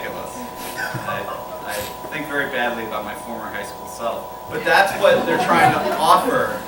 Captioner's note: laughter